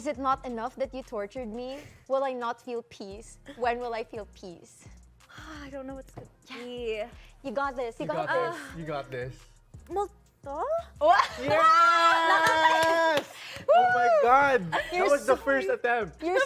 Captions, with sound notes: Is it not enough that you tortured me? Will I not feel peace? When will I feel peace?" - Gosh, I don't know what it is. - Yes! - You got this. You got this. - You got this. Multo? - [CRACKS UP] - Yes! - Whoo! - Oh my god! - You're so... - That was the first attempt!